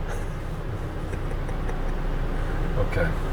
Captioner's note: laughs